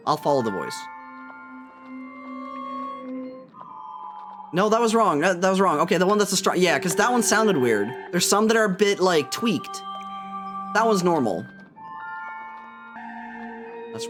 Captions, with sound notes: I'll follow the voice. [Affirmative Bell] [Distorted Singing] [Sad tune] No, that was wrong. That was wrong. Okay, the one that's a strong... Yeah, because that one sounded weird. There's some that are a bit, like, tweaked. [Gentle Singing] That one's normal. [Affirmative Bell]